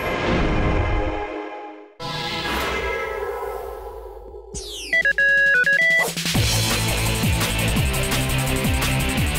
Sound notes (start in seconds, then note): 4.6 beeping; 6.2 theme music